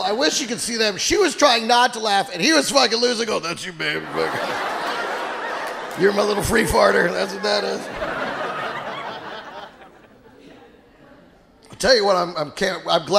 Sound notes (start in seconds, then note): 8.2 audience laughing